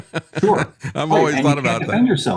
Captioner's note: laughs